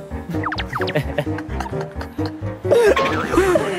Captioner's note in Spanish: Solo riendo